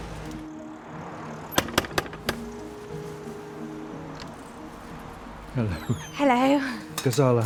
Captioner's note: knocks on the door